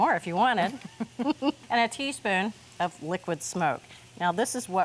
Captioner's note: both chuckle